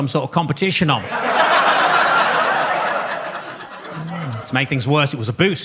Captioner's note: audience laughs